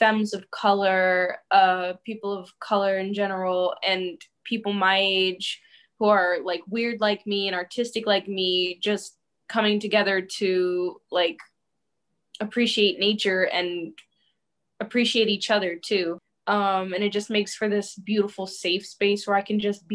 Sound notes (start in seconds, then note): none